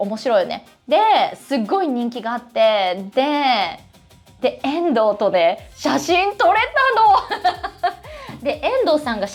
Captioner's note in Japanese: 笑い